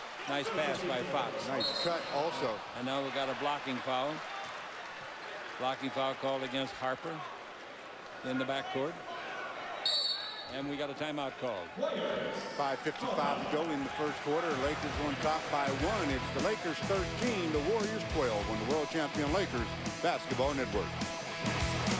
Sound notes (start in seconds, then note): 9.8 whistle blows